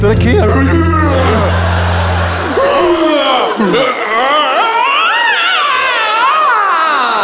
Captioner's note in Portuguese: grunhidos